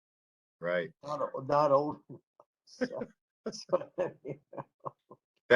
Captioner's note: laughter